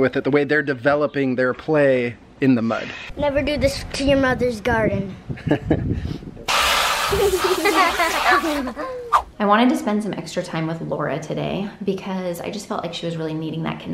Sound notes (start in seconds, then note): 5.5 laughs; 6.5 water splatters; 6.6 kids giggle